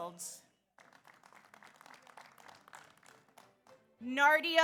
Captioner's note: audience applauds